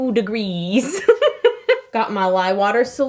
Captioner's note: laughing